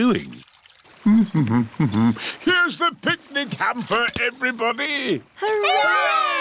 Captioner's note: hums